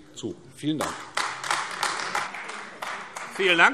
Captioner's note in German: Beifall AfD